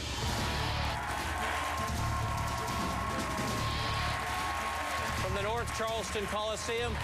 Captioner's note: applause